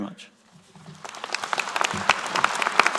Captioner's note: applause